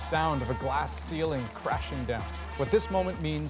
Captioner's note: applause